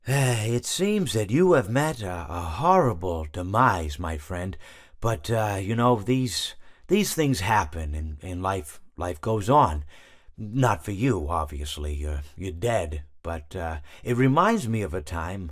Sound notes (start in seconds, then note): none